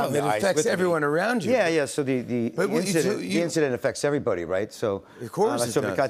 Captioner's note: none